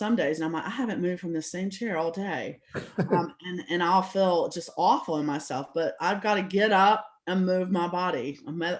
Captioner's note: laugh